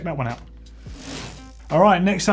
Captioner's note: bicycle gear whirs